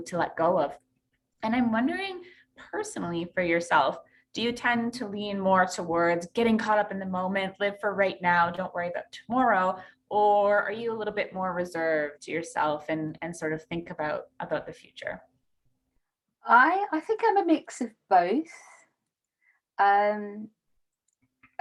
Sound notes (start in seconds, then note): none